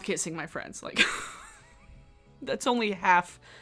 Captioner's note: laughing